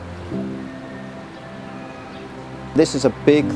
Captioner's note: birds chirping